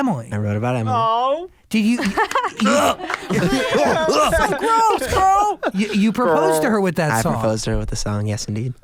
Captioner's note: vomit sounds